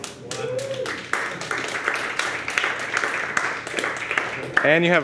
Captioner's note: crowd applause